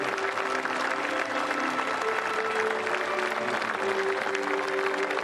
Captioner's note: speaking global language